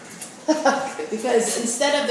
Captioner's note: laughs